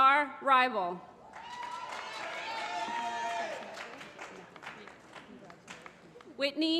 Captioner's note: applause